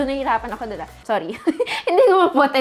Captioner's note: chuckles